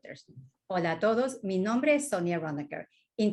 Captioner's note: speaking spanish